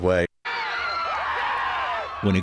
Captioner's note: cheering